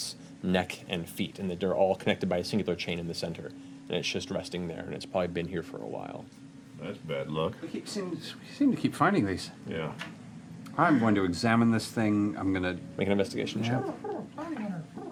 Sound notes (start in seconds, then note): none